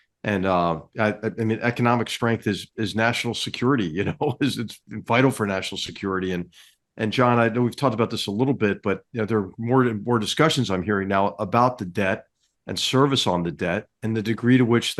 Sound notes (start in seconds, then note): 3.9 laugh